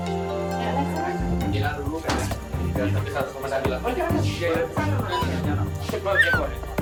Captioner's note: men chatting in foreign language; upbeat music